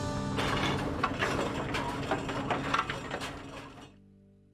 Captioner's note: metal clanging